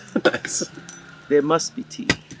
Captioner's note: laughing